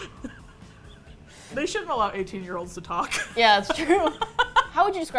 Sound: both laugh

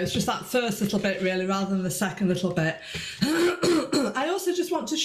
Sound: clears throat

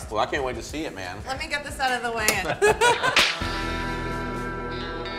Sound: laughs; slow guitar music

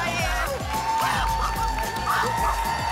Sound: applause and cheering cont

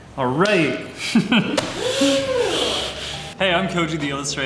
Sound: chuckling

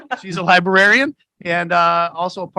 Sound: laughs

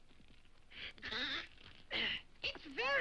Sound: groans

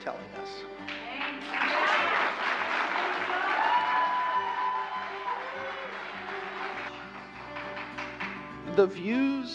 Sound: applause

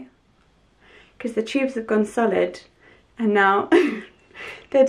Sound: laughs

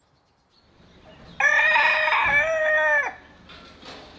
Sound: rooster crows

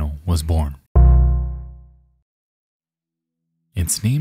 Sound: computer notification chiming

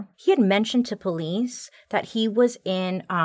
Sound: none

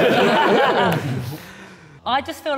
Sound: all laughing

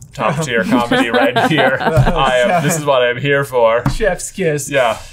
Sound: laughing

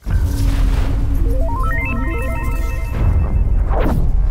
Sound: synthesized whoosh

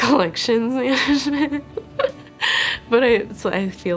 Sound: giggling

